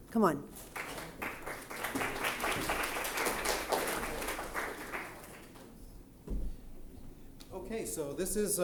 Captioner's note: applause